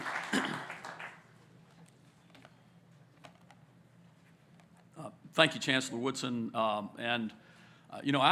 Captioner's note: applause